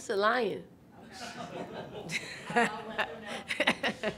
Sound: laughter

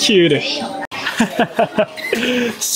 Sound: laughs

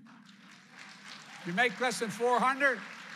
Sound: applause

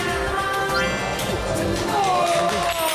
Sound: nice finale with the cheer from the crowd

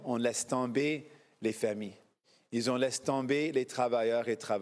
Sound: speaking FRENCH

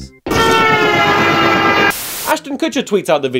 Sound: train honks

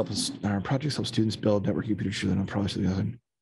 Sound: reads a comment under his breath

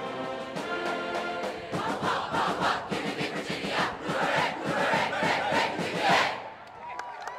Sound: cheering; applause

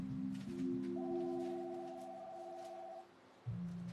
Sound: phone rings

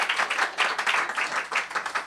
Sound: applause

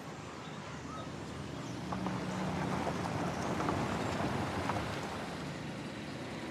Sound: car approaches

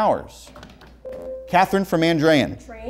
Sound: beeping

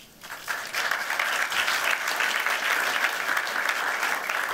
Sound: applause

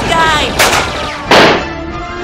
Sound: shotgun blast; pistol shot

